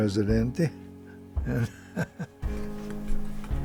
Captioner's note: soft chuckle